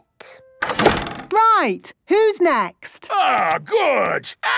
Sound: doors slamming

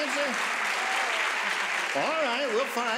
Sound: applauding

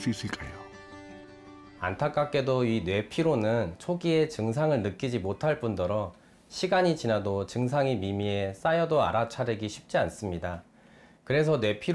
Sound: voiceover

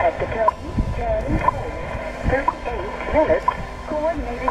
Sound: WWVH beeps

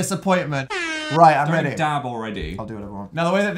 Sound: airhorn sound effect

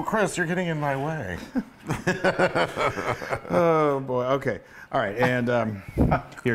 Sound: laugh

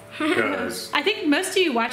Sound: giggling

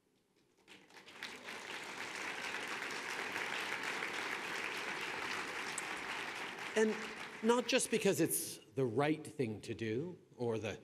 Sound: applause

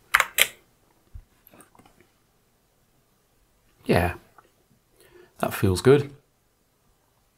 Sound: blank Audio

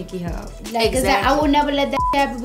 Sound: beep

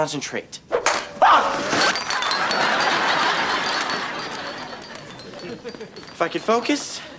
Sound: whack

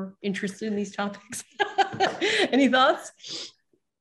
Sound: laughs

